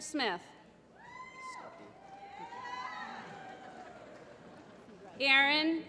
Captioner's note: applause